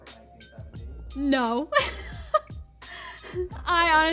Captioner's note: laughing